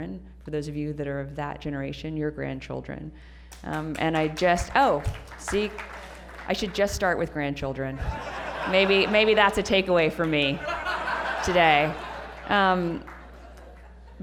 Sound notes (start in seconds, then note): 3.5 applause; 7.9 laughter